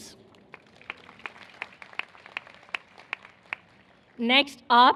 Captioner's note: applause